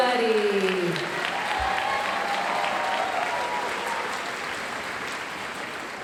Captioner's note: audience cheering and applauding